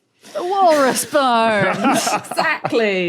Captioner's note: laughs